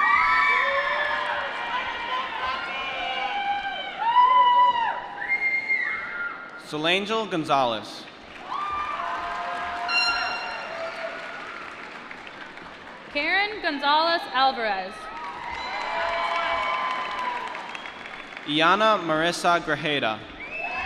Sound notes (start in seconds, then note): 0.7 applause; 8.3 cheering; 15.0 applause